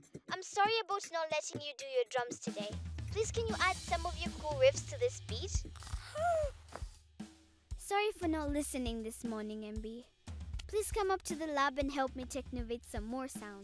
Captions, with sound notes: not letting you do your drums today. Please, can you add some cool riffs to this beat? (snoring, gasps) Sorry for not listening this morning, MB. Please come up to the lab and help me technovate some more sounds.